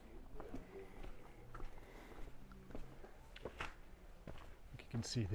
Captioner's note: footsteps